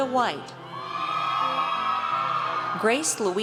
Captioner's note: audience cheers